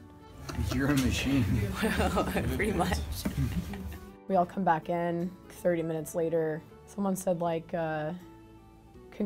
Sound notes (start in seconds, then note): 1.6 laughs